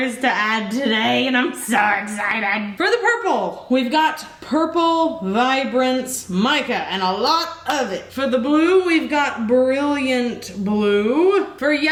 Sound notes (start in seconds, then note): none